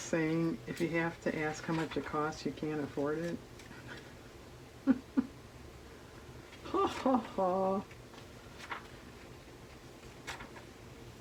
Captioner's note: laughs